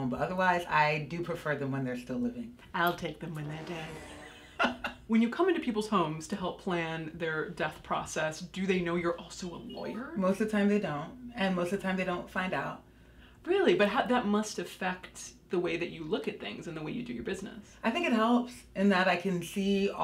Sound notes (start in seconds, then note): 3.9 laughs; 4.0 ominous instrumental music